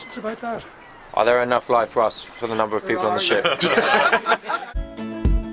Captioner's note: laughter